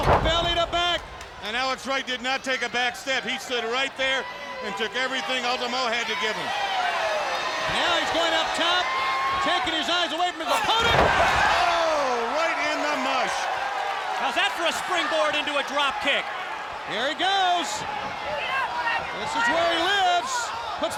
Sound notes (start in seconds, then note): 0.0 body thudding; 10.7 blows thudding; 10.7 body thudding